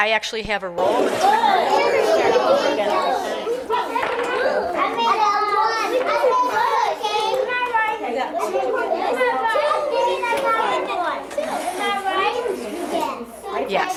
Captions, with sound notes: I actually have a role. (children indistinguishably shouting) Am I right? Yes.